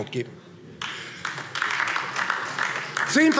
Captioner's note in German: Beifall